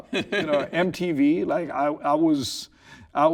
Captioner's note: laughing